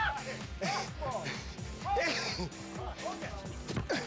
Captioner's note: speaking Japanese